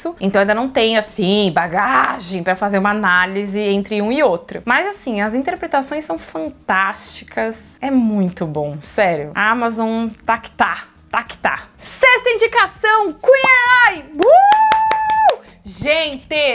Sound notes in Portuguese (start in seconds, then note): 14.1 grito de comemoração